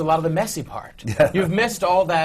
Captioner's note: laughs